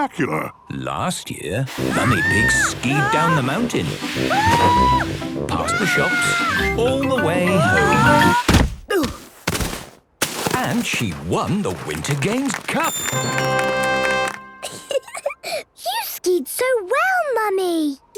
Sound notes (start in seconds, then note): 5.6 screaming; 8.3 exclaiming and grunting; 12.9 triumphant music; 14.6 giggling